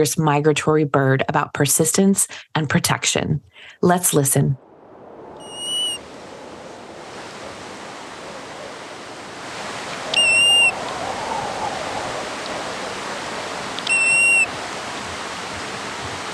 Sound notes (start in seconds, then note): 5.4 bird calls